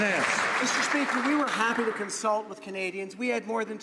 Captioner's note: some Applause